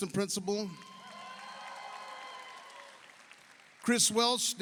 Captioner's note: audience cheers; audience applauds